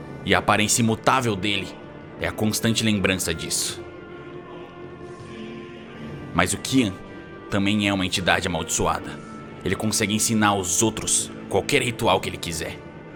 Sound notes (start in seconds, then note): none